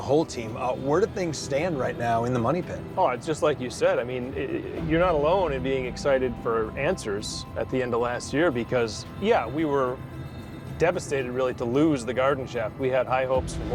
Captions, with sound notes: Uh, where do things stand right now in the Money Pit? Oh, it's just like you said. I mean... (stammers) You're not alone in being excited for answers at the end of last year because, yeah, we were... devastated, really, to lose the Garden Shaft. We had high hopes for more search